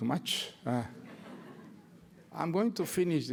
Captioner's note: laughter